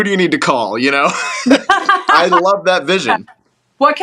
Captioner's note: laugh